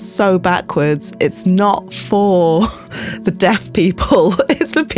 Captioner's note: laughs